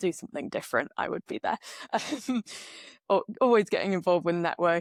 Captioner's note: laughs